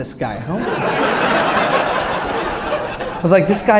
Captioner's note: laughter